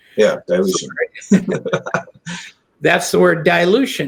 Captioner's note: chuckles